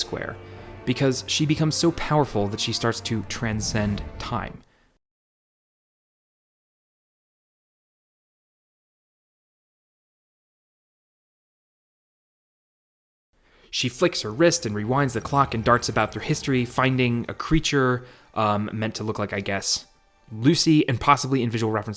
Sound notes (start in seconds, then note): 4.7 total silence